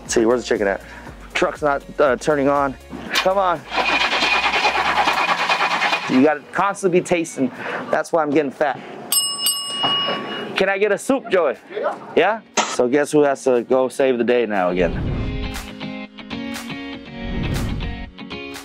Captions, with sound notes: See, where's the chicken at? Truck's not turning on. Come on. (truck engine sputtering) You gotta constantly be tasting. That's why I'm getting fat. (bell ringing) Can I get a soup, Joey? - Yeah. - Yeah? So guess who has to go save the day now again? (lively upbeat music)